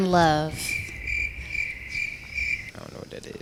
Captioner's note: crickets